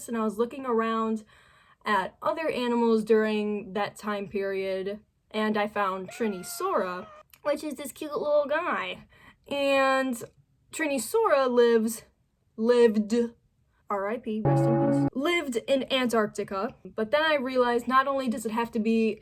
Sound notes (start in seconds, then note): 6.6 yayyyyy!; 14.4 large, low bell sound